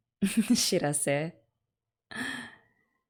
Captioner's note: laughs